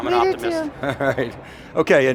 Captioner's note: laughs